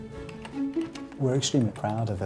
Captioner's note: computer keyboard clacking